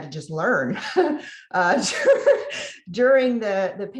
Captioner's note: laughs